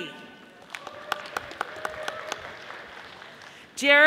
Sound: audience applauding

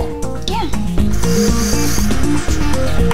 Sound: drill whirring

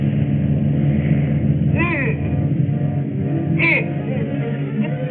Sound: grunts

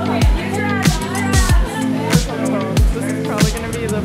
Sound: crowd chattering

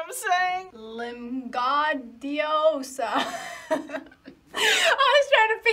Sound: laughs

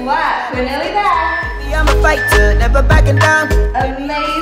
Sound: timer beeping

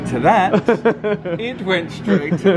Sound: laughs

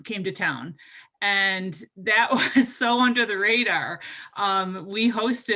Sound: laughs

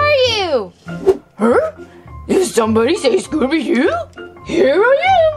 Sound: gulps

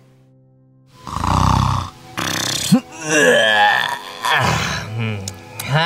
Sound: Luigi snoring, yawning

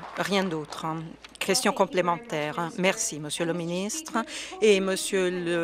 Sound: some Applause

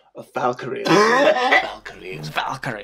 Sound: big cough

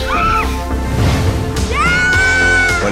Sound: screams

